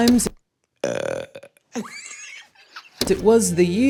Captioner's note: person burps